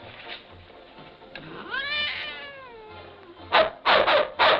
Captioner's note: cat meowing; dogs barking